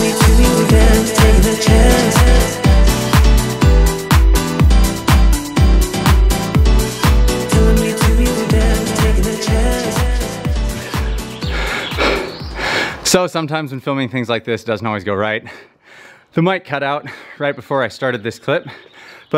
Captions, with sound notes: (heavy breathing) So sometimes when filming things like this doesn't always go right. The mic cutout right before I started this clip.